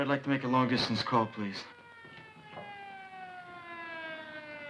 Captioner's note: sirens wailing